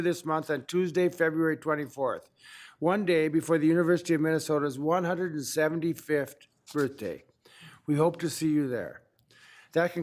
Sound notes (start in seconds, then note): none